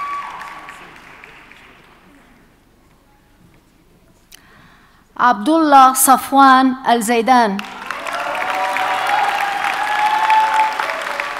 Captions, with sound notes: - Abdulah Safuan Alzeidan. (audience cheers and applauds)